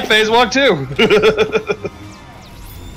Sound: laughter

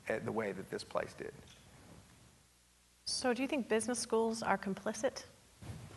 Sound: none

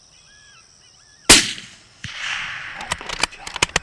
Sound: gun firing; gun cocking

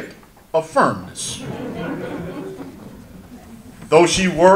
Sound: audience laughter

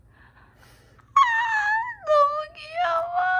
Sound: exclamation

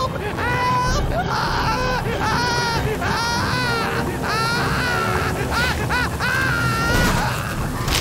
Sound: screaming

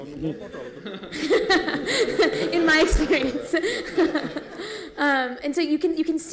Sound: laughs

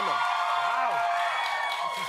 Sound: cheers and applause

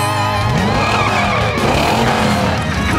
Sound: accelerating

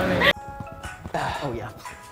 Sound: ringtone

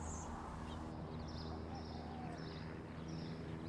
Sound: birds chirping

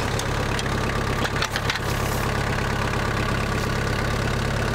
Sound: engine roaring

